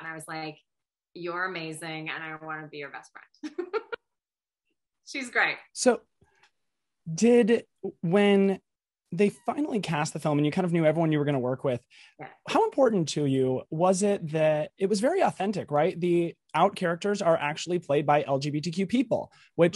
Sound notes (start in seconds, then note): 3.5 laughs